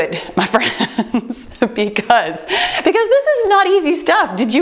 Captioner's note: chuckles